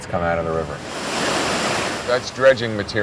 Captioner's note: liquid splashing